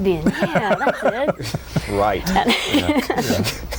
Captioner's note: laughs